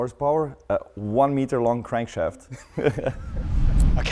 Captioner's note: both laugh